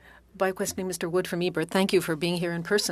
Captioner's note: speaking French